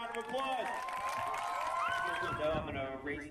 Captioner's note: audience cheering and applauding